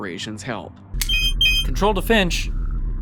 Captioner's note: phone beeps